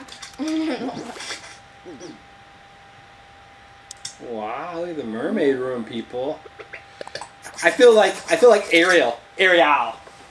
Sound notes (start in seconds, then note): 0.4 laughs; 1.8 buttons noises; 3.3 light clicks on; 6.5 laughs